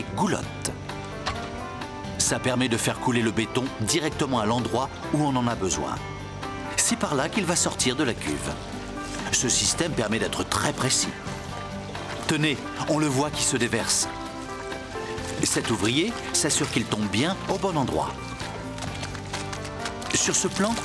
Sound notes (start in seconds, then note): none